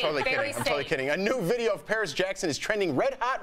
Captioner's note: laughter